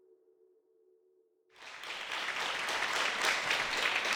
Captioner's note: applause